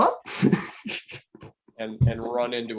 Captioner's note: chuckling